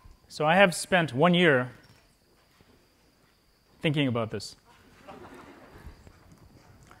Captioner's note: laughter